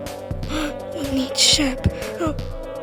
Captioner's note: gasp